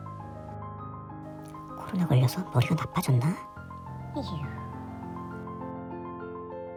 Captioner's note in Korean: 한숨